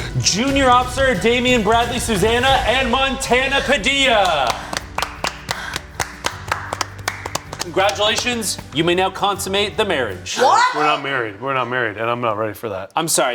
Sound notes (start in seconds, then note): 4.0 everyone applauding